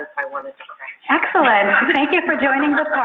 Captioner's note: laughing